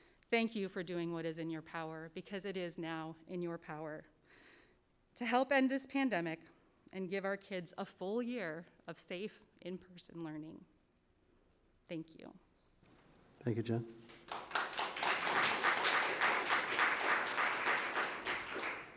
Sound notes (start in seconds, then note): 14.1 audience applause